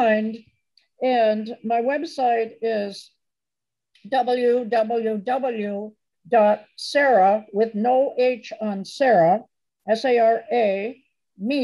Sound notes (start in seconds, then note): none